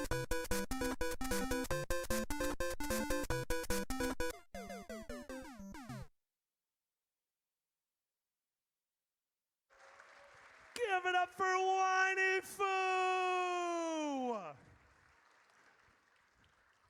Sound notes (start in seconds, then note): 5.4 mario death noise; 9.7 audience cheers; 13.4 applause